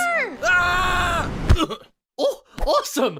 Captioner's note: Nickel screams, then grunts